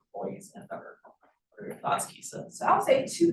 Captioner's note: sound distorted